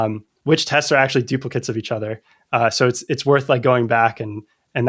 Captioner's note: uh